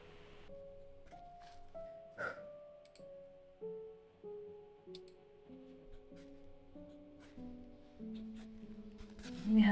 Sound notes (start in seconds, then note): 2.2 deep breath